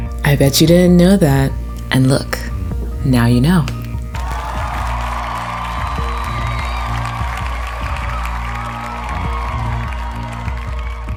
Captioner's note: cheering